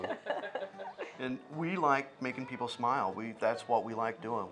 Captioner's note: laughter